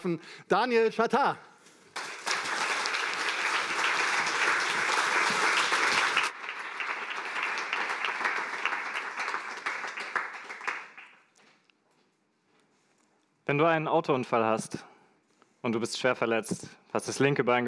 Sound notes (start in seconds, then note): 1.8 applause